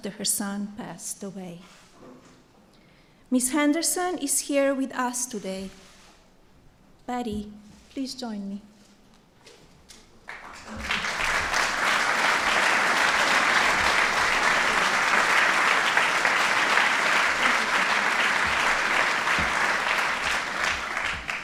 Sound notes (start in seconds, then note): 10.2 applause